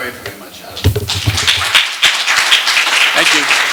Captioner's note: applause